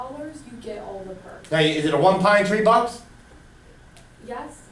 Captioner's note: voiceover